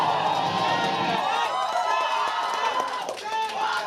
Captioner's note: cheering